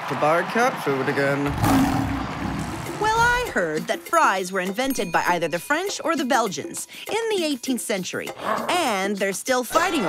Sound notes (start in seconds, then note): 1.6 lions roaring; 6.5 growling